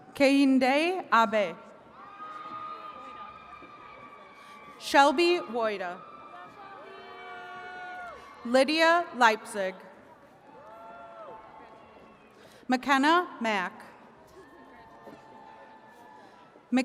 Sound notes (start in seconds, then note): 1.9 attendees cheering